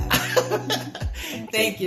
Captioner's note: laughter